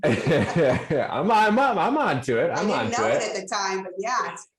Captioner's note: laughs